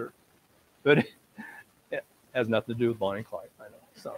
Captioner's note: laughs